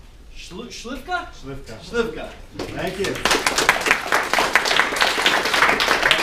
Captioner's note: people clapping